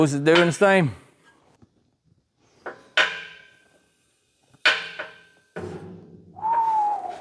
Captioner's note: clanging